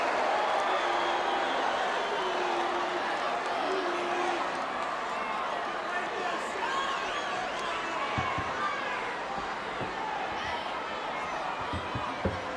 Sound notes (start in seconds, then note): 3.9 audience chattering